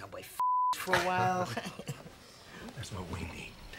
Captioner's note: laughing